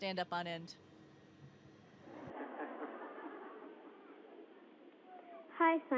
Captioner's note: laughter